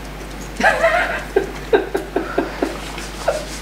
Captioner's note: laughs